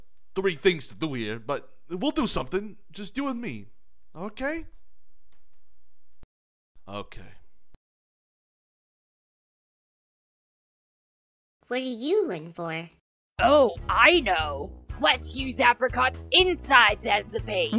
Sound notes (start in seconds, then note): none